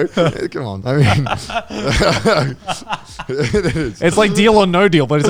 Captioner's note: all laughing